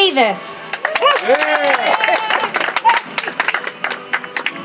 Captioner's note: audience applauds